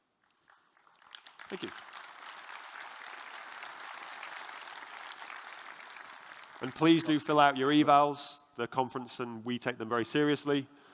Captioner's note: applause